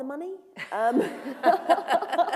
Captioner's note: laughter